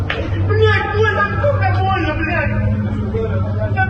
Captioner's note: man shouts